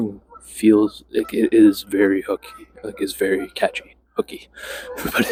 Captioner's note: laughs